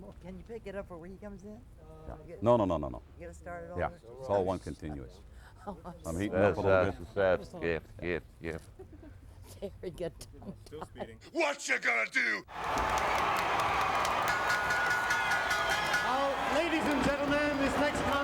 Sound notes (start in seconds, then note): 11.1 laughs; 14.5 bell rings